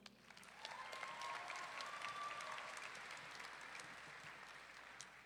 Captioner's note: audience clapping and cheering